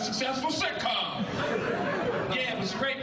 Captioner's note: audience laughing